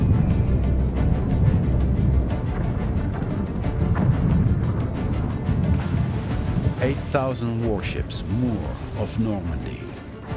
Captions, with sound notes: [bombs exploding] [splash] 8,000 warships moor off Normandy,